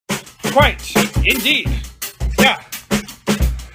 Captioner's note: posh-type accent; drum beat